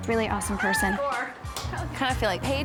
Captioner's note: shouting